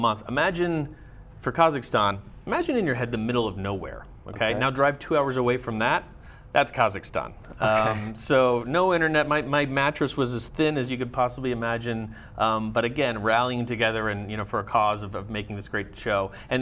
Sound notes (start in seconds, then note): 7.6 laughs